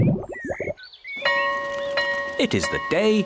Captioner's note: tummy rumbles; school bell rings